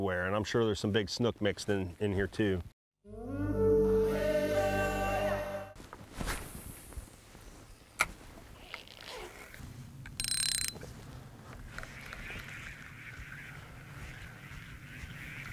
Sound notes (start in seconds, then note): 3.0 slow music; 10.3 metal reel clinking